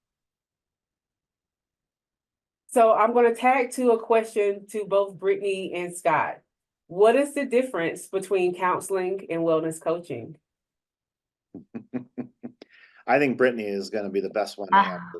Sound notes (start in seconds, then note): 11.6 chuckles; 14.8 chuckles